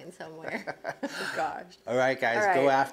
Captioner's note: laughs